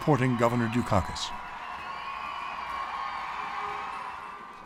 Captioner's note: audience cheering and applauding